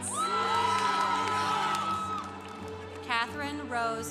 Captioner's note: congregation applauding